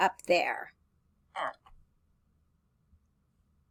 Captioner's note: computer voice